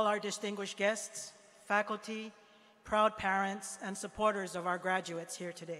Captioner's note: none